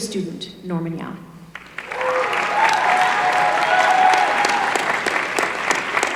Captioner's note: applause